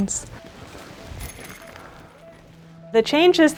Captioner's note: metal clanking